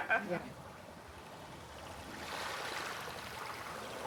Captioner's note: water lapping